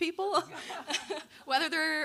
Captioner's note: audience laughing